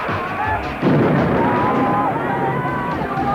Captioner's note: screaming